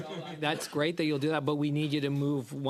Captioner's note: laughter